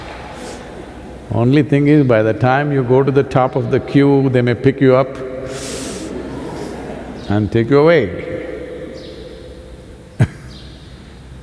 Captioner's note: laughs